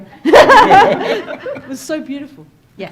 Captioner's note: panel laughing